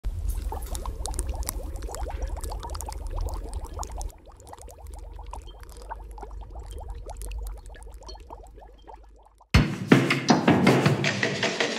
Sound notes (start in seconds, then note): 0.0 Cauldron bubbling, fire crackling; 9.5 upbeat drums